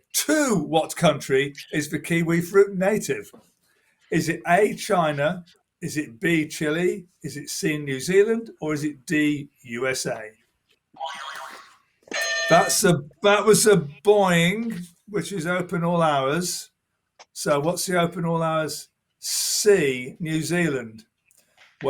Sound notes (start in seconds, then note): 11.1 boing; 12.1 bell ringing